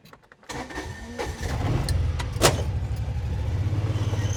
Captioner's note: engine starting